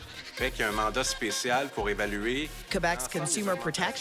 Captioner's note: speaking French